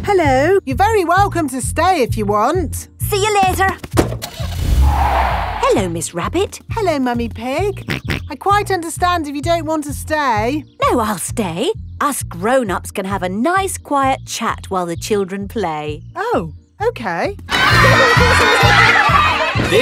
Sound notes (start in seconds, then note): 4.3 car starting; 4.4 tires screeching; 8.0 snorts